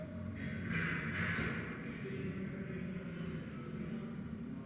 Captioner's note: metal clanking